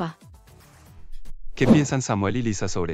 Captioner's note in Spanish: FX - Whoosh - 03